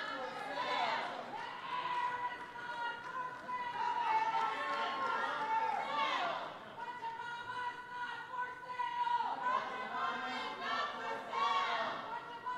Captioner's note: protesters protesting